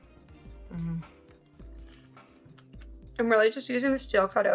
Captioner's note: moans